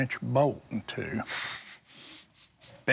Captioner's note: soft laughter